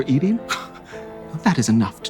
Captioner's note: scoffs